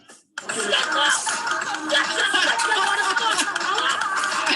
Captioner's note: speaking guyanese